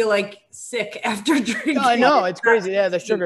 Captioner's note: laughs